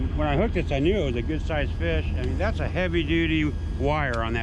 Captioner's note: boat engine idling